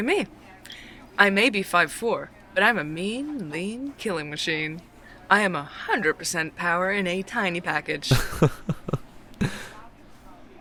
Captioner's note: laughs